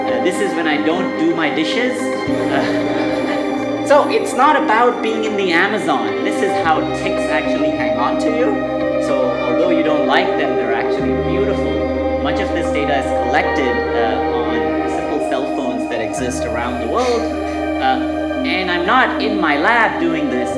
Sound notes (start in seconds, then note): 2.3 audience laughing